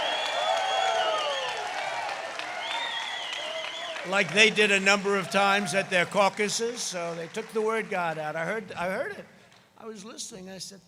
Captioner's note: crowd cheering